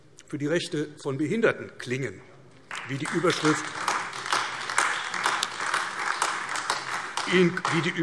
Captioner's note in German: Beifall AfD